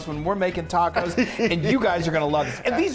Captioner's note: laughing